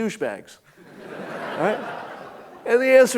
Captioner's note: audience laughing